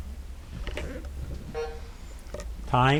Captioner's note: timer buzzing